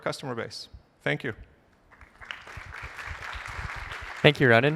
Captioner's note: applause